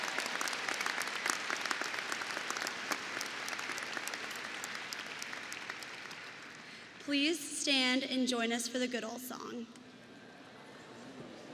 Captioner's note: applause